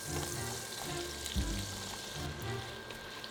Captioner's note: sizzling